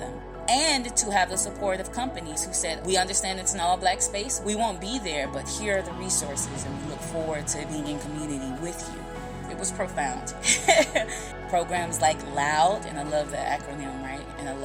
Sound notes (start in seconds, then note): 10.4 laughter